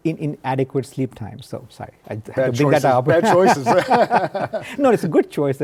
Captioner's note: laughs